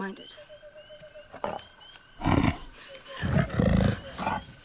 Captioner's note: gasping; growling